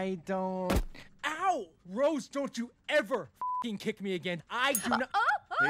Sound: beep

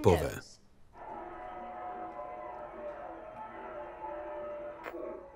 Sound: television playing

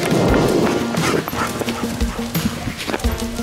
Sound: panting

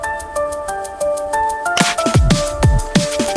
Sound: hard slap

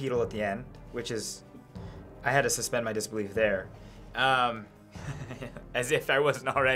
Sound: chuckles

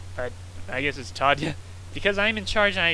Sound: laugh

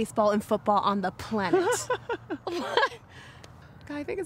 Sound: laughs

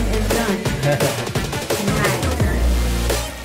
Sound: laughs

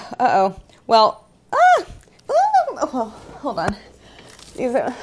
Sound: softly shrieking

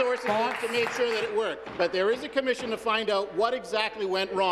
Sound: applause

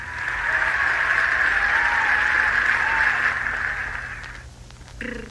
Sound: Crowd Cheers for Zak

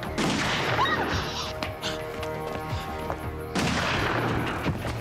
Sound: gun firing; screaming and gasping; gun firing

